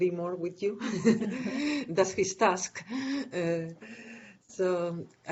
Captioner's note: chuckling